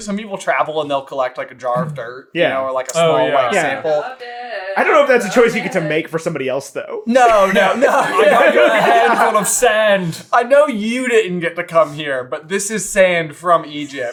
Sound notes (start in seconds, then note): 7.2 laughs